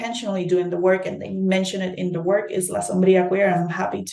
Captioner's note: speaking in Spanish